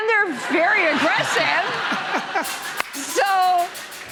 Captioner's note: laughter